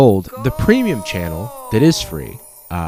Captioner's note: disembodied voice